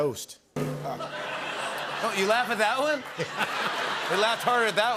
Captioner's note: laughter